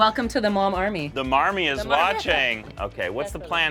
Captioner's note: laughing